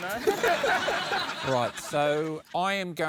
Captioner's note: laughter